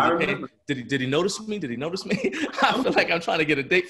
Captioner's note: laughs